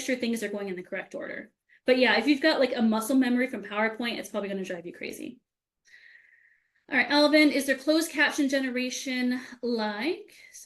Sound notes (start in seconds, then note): none